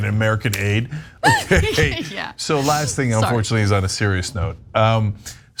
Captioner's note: laugh